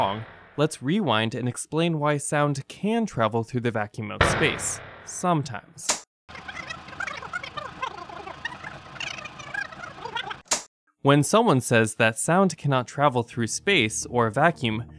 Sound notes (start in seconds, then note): 6.4 rewinding Sound